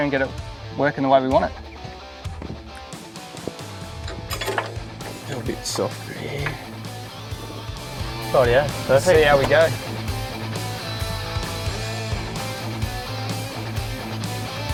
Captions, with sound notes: and get it workin' the way we want it. (spanner clanking) A bit soft there.. - Oh yeah, perfect! - Let's see how we go. (loud rock music)